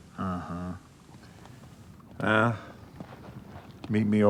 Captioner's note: none